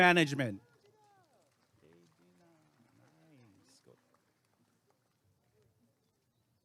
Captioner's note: applause and cheering